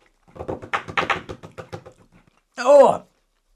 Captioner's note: hangs banging